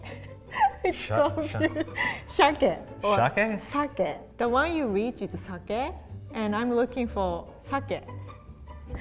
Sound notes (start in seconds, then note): 1.1 laughs; 2.4 speaks in foreign language; 7.1 speaks in foreign language